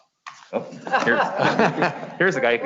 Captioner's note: all laughing